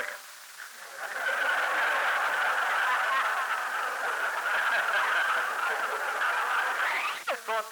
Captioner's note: laughter